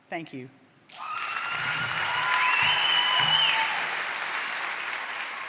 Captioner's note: cheering and applause